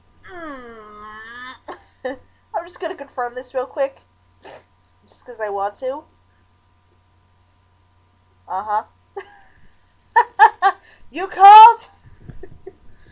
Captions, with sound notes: MMMMMMMMM. (laughing) I'm just gonna confirm this real quick. Just 'cuz I want to. Uh-huh. (laughing) You called?!